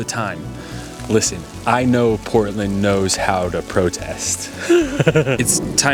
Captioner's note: laughs